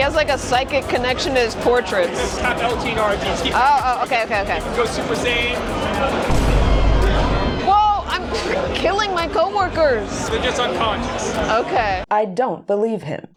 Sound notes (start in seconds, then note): 6.2 boom